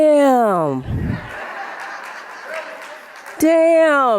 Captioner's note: audience laughing